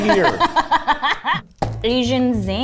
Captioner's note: laughs